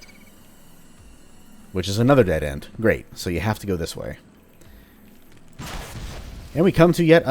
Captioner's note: fwoosh